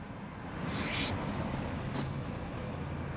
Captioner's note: hissing again